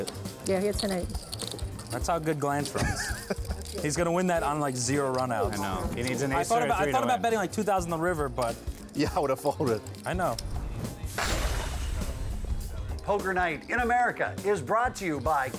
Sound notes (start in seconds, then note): 11.1 rumbling, then a crash of poker chips falling